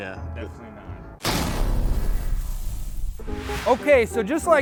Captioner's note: loud shatter noise